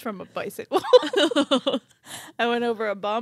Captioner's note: laughing